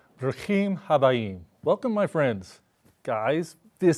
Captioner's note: speaking in Hebrew